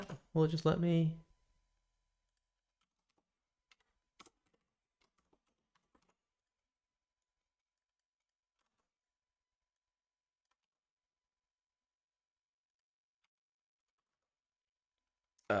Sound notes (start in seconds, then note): 1.0 silence